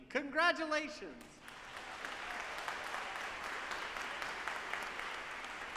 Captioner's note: audience applauding